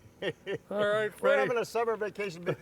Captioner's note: laughing